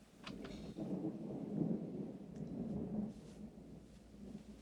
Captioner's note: thunder Rumbling